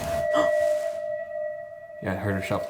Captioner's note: REM-Pod beeping; gasping